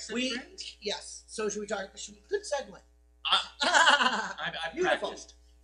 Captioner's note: laughter